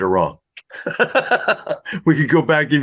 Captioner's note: laughs